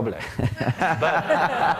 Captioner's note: laughter